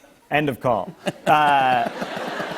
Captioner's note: laughter